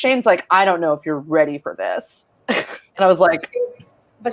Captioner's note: snickers